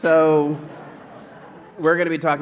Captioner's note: laughter